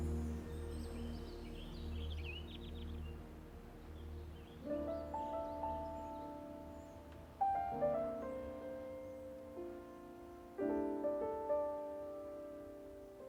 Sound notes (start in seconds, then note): 0.0 birds chirping; 4.5 gentle music